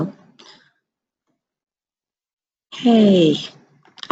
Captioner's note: pause